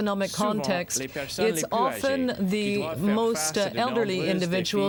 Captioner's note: speaking french